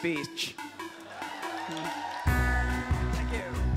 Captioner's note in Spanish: público aplaude